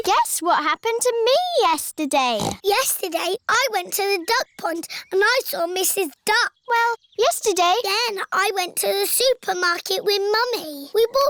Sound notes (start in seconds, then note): 2.3 snorts